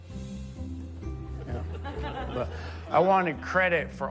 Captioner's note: audience chuckles